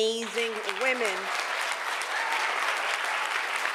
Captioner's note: applause